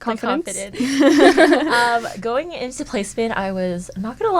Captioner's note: laughter